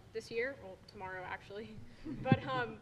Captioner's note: laughter